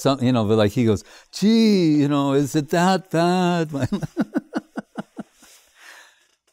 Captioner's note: laughing